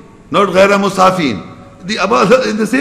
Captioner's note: Arabic